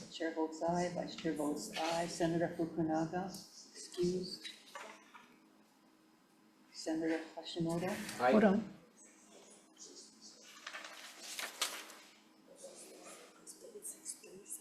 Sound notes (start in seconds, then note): 10.4 papers rustling